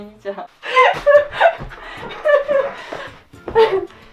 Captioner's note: laugh